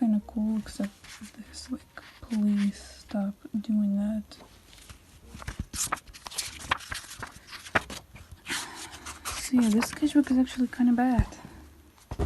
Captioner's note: sigh